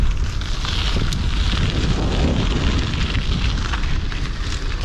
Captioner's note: wheels rumbling